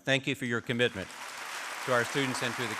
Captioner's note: applause